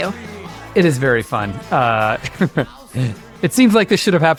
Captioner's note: laughs